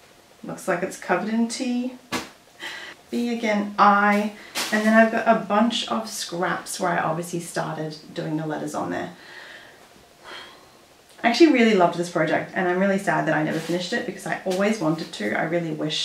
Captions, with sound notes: looks like it's covered in tea (haha). "B" again "I" and then I've got a bunch of scraps where I obviously started doing the letters on there. (sigh) I actually really loved this project and I'm really sad that I never finished it because I always wanted to. I really wish